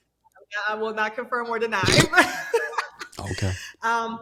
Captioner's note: laughing